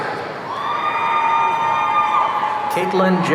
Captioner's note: audience cheering